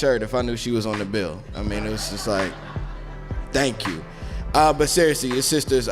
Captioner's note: laugh